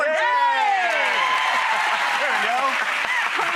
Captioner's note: applause